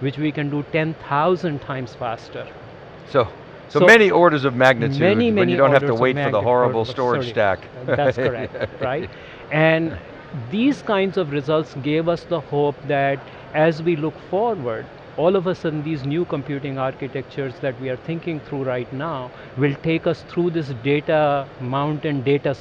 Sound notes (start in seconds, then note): 7.6 laughs